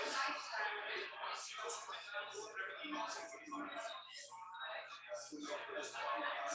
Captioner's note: people chattering indistinctly